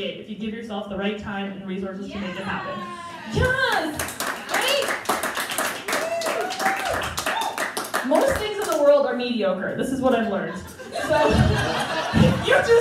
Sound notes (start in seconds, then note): 3.0 crowd Applause And Cheering; 3.1 crowd Applause; 10.3 crowd Laughing